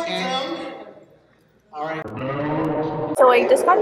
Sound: demonic??? sounds

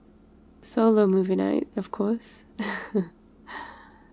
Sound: laughs

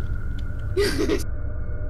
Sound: laughs

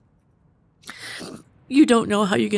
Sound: sniffles

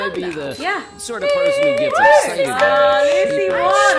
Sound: cheering

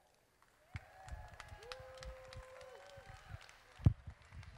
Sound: crowd applauding

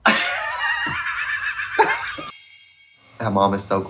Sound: both laughing; soft chiming

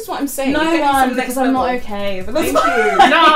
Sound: laughs

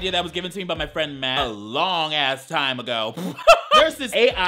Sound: laughs

